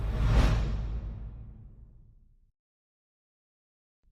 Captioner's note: air whooshing